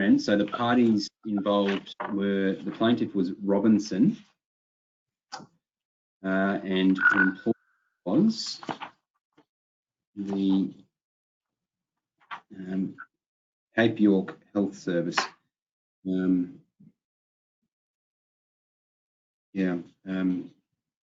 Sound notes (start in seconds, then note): 0.0 chuckles; 6.8 electronic tone beeping